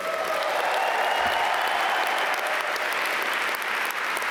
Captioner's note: audience applaud